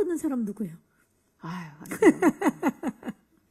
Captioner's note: sigh